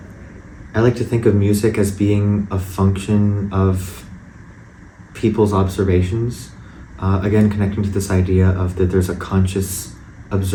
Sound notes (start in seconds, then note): none